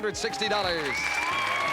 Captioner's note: cheers and applause; theme music playing